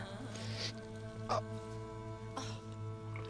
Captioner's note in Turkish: İnilti sesi